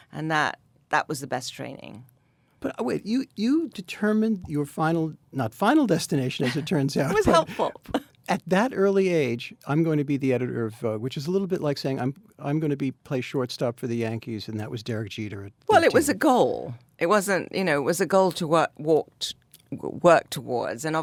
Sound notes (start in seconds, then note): 6.4 Anna laughs; 7.0 laughs